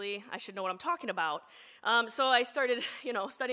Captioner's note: none